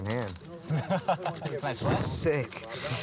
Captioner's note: laughter